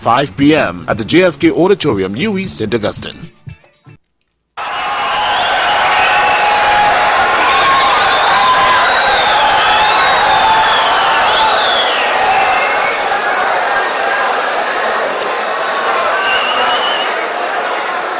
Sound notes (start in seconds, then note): 6.9 wild applause and cheering for 22 seconds